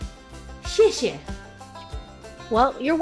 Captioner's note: speaking Chinese